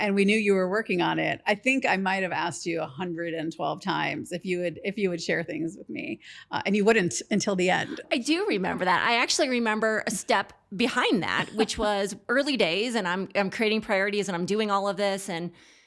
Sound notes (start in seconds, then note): 11.2 laughs